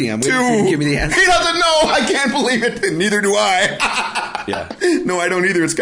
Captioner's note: laughing